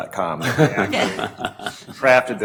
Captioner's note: laughing